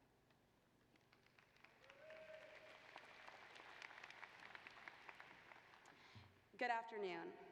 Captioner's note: applause